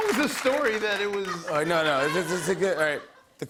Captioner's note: stammering